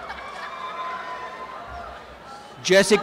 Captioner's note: applause and cheering